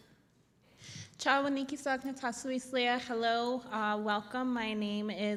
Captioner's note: non-english